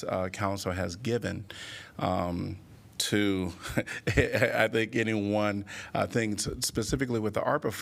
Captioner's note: laughter